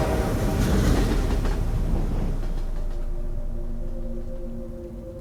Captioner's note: horn honking; train wrecking; gentle music